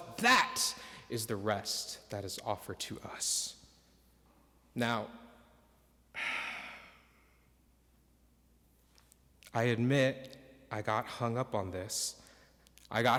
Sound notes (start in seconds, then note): 6.1 exhales